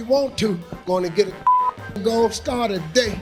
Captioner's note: beeping